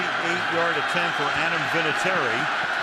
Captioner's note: cheering